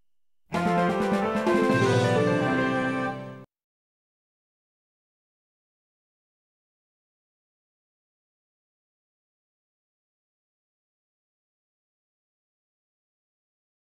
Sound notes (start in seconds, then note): 0.0 station identification music; 3.5 silence